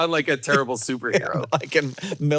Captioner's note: Hank laughing